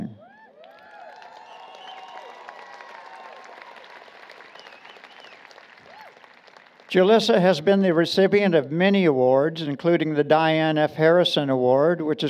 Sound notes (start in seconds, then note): 0.2 applause, Cheering